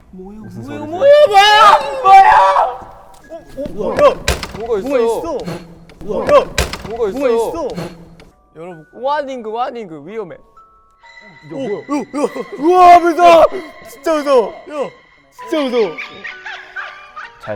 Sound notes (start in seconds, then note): 3.5 bump!